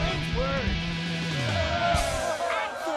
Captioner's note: crowd cheering